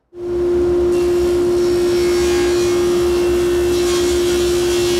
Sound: cutting wood

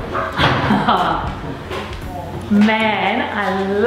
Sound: laughs

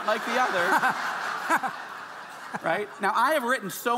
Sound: audience laughing

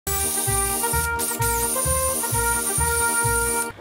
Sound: whirring; exciting music

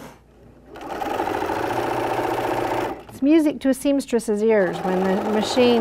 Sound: machine stitching

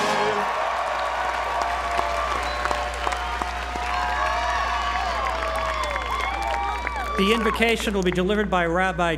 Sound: applause

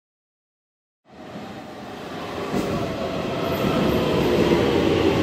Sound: train whirring

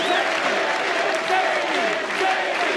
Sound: audience cheers and applauds

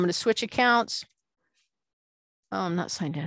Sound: none

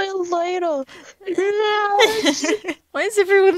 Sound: laughs

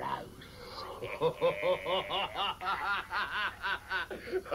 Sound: laughing

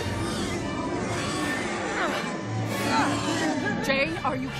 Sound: grunting

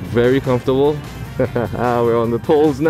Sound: laughter

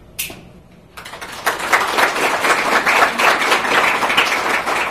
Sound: applause

